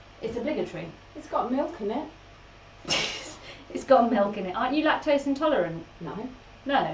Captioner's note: laughs